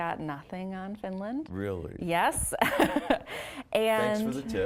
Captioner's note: laughing